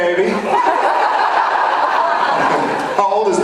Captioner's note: laughs